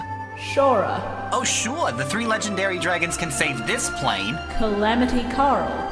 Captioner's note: Joey voice